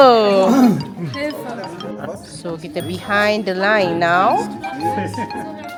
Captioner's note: speaking German